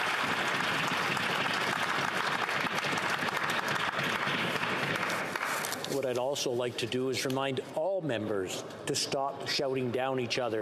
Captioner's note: applause